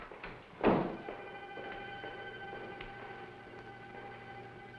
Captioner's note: footsteps moving away